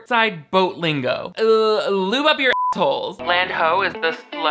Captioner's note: beep